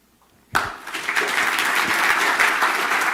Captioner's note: applause